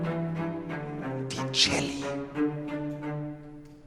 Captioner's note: whispered